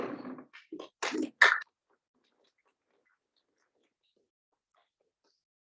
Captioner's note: audience member claps